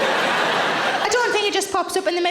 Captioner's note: audience laughing